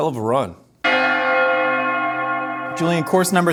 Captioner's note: bells Ringing